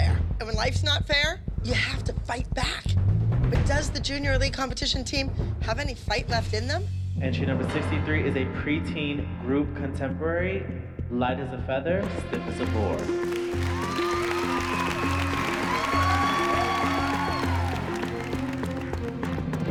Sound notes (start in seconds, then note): 13.0 cheering; 15.8 applause